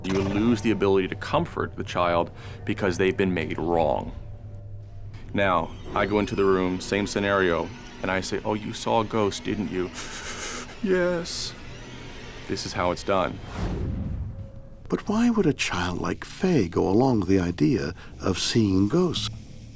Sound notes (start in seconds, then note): 10.0 whimpers